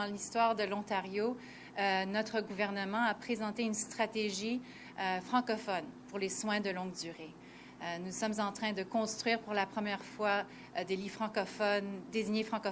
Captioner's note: responding in French